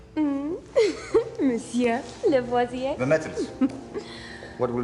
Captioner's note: <i> giggles</i>